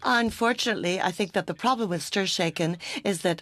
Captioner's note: speaking French